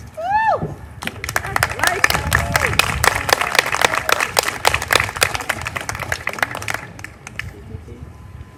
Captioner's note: applause